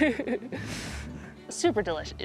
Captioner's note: laughter